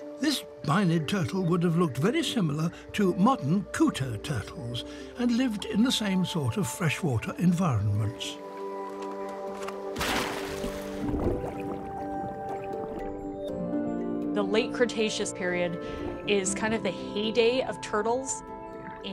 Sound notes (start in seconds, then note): 8.1 water splashes; 9.0 gentle music